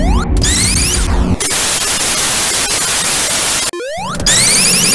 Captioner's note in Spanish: Estatica salvaje aparece